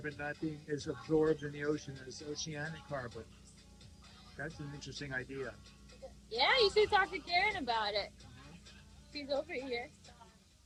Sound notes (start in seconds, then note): none